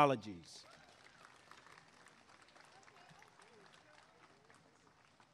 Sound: applause and cheering

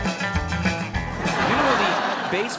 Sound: audience laughing

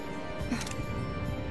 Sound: camera Click

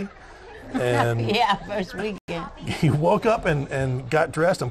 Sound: laughs

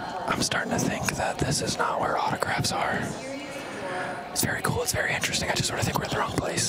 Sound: whispering

